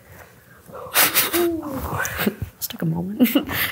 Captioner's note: laughs